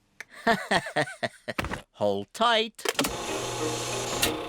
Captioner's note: laughs